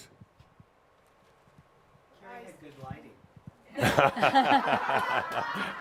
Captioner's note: laughter and Adamus chuckles